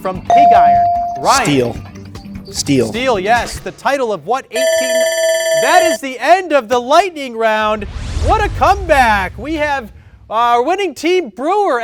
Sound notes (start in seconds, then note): 0.3 bell dings; 4.6 timer buzzer